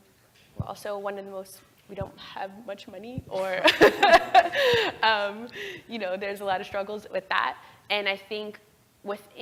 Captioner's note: laugh